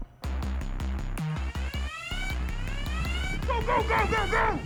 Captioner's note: suspenseful electronic music; alarm wailing